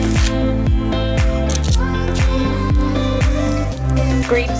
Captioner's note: snapping